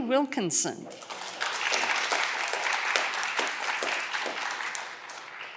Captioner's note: audience clapping